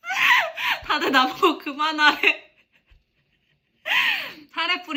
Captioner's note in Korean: 웃음